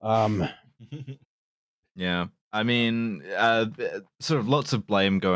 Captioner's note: chuckles softly